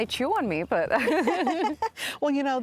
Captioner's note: laughing